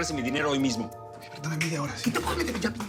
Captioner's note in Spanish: Exclamaciones